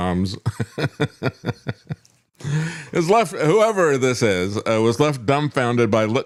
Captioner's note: laughs